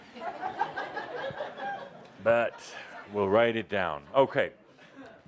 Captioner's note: laughter